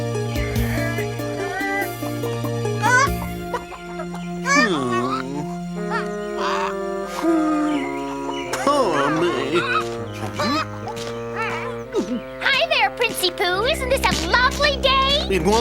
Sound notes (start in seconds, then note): 4.8 chickens clucking; 6.9 sighs